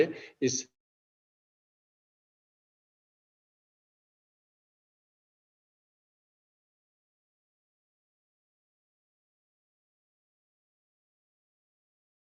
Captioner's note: audio cut out